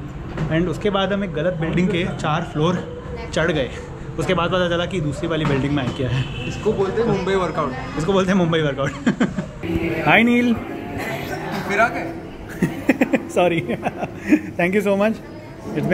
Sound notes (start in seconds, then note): 12.4 laughing